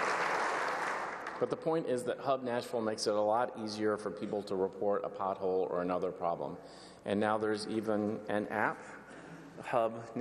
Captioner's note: applause